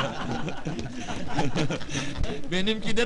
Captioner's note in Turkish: gülüşürler